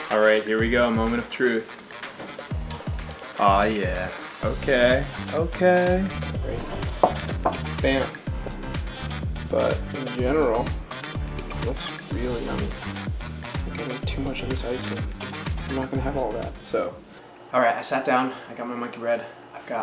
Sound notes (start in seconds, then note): 6.6 bowl thudding